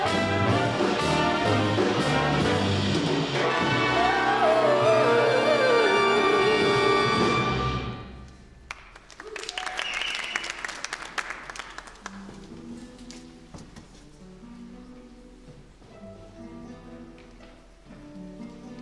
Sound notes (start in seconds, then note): 0.0 energetic, brassy jazz music; 8.6 applause, cheering; 16.1 delicate, relaxed guitar music